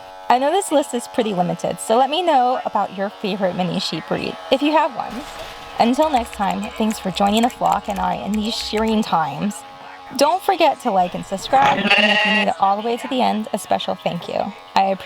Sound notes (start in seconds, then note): 7.7 clipping noises intensifies